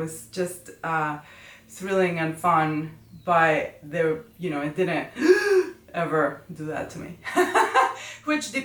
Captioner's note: gasp